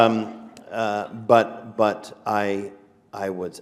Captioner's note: laughter